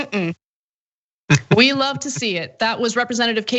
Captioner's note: laugh